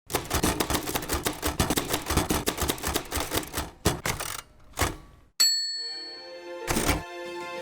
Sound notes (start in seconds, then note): 0.0 typewriter typing; 5.4 bell dings